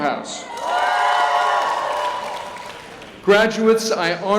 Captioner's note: cheering